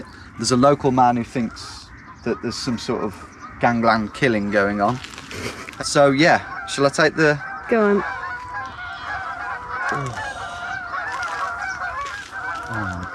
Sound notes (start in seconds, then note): 8.9 geese honking; 9.8 sighs; 11.1 geese honking